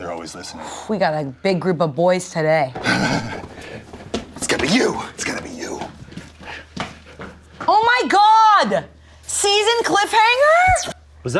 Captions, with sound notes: - They're always listening. - We got a big group of boys today. - (laughs) It's gonna be you, it's gonna be you. - Oh my God, season cliffhanger.